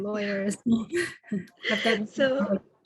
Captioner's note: chuckles